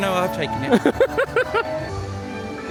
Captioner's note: laughing; bright festive music